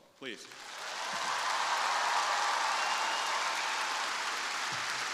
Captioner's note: crowd applauding